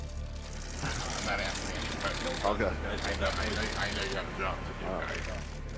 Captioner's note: camera shutters clicking